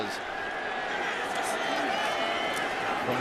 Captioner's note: cheering